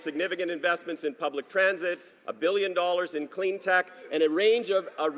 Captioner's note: none